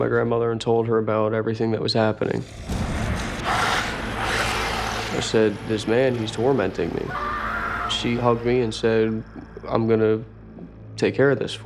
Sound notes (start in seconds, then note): 2.0 growls; 2.1 snarls